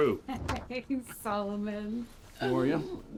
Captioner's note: chuckles